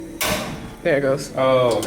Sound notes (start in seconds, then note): 1.6 click from the grill